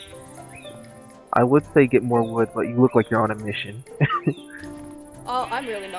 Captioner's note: forced chuckle